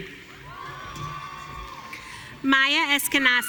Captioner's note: audience cheering